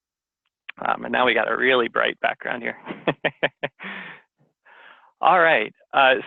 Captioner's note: laughs